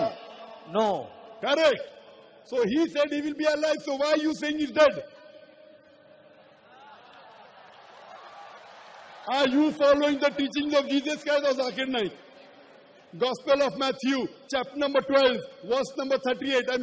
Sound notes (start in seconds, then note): 5.1 applause